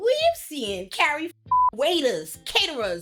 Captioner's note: beep